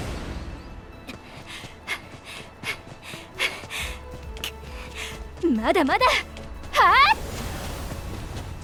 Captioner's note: huff